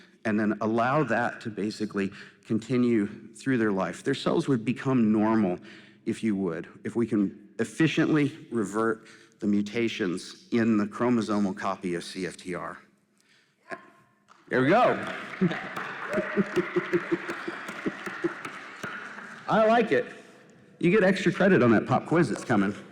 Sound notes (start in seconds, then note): 14.5 applause